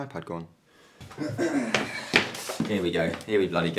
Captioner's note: clears throat